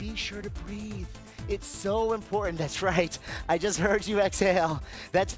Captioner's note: chuckling